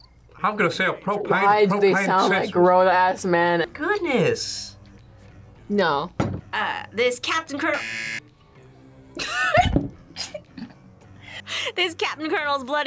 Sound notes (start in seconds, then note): 7.6 buzzer; 10.0 laughs